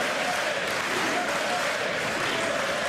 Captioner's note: applause